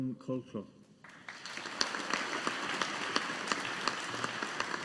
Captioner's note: audience applauding